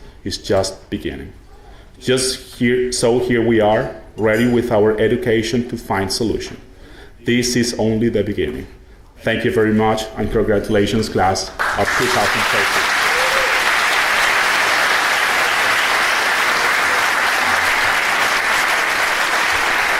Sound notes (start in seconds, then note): 11.5 audience applauding